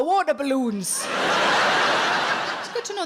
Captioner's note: audience laughs